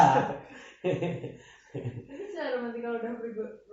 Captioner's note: laughs